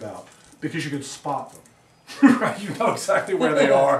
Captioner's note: laughs